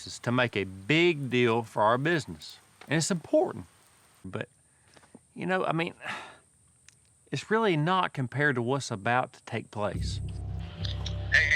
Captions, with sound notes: MAKE A BIG DEAL FOR OUR BUSINESS AND IT'S IMPORTANT BUT, YOU KNOW, I MEAN... [SIGHS] IT'S REALLY NOT COMPARED TO WHAT'S ABOUT TO TAKE PLACE.